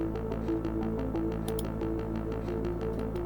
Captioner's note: mouse click; mouse click; tense electronic music